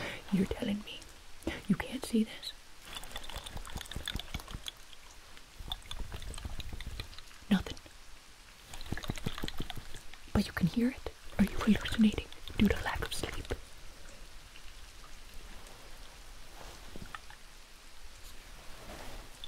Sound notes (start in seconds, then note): 2.8 liquid sounds